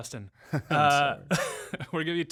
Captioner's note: laughing